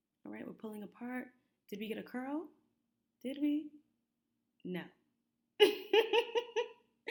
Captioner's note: laughs